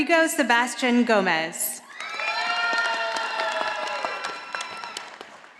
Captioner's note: audience applauding